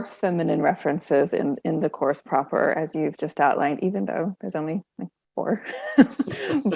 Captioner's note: laughing